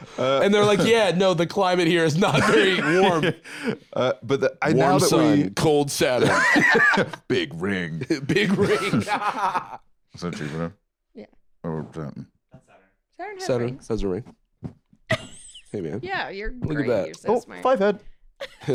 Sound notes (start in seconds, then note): 9.5 laughs